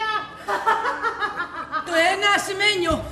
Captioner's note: γέλιο